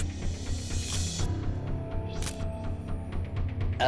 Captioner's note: camera shutter click